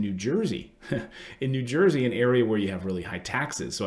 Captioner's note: chuckles